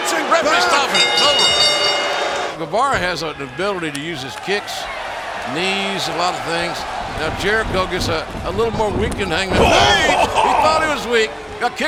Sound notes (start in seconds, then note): 0.5 bell ringing